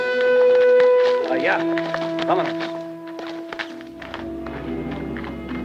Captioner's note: Red Hawk speaks Spanish